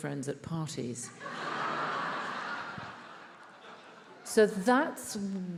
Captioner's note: attendees laughs